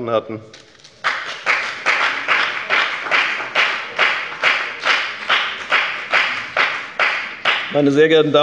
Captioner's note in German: Beifall bei der FDP